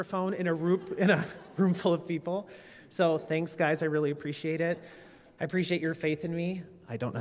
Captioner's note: laughter